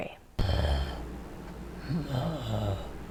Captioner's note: growling